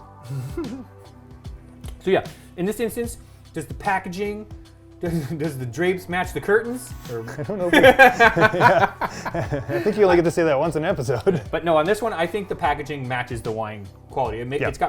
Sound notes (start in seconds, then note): 0.3 chuckles; 7.2 laughing